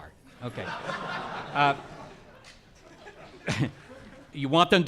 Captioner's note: audience laughing